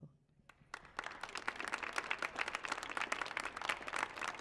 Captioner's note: audience applauds